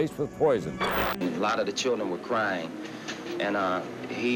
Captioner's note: voiceover